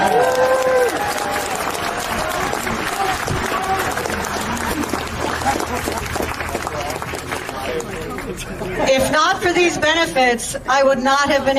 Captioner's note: applause